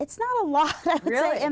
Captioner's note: laughter